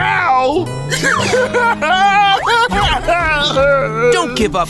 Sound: crying

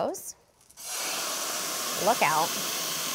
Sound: sizzling

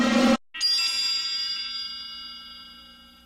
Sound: twinkling

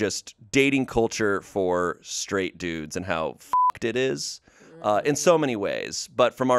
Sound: beep

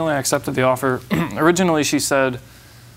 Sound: clears throat

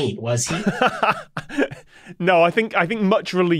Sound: laughs

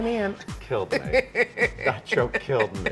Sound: Alex laughing

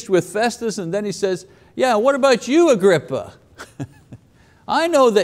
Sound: laughs

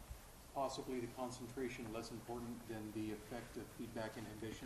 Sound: none

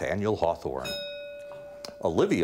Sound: bell ringing

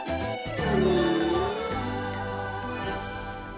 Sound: sighs

